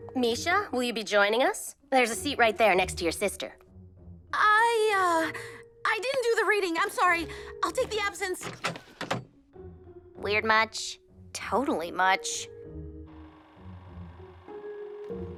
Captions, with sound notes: Mischa? Will you be joining us? There’s a seat right there, next to your sister. I... uh... I didn’t do the reading! I’m sorry! I’ll take the absence! [door opens] -Weird, much? -Totally much. [projector buzzing]